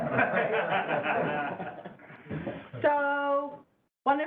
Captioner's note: laughter